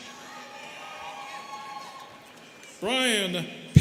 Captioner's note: students cheering